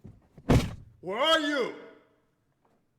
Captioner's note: door slams closed